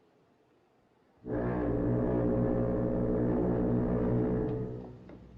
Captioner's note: foghorn Blows